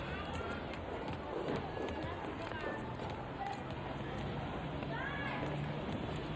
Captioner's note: people chattering; vehicles humming